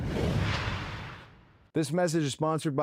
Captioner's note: logo whooshing